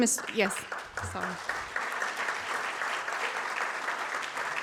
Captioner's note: audience claps